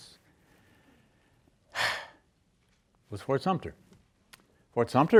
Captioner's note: sighs